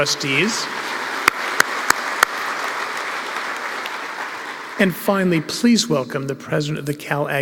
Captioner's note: applause